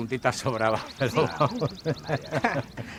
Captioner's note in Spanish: Risas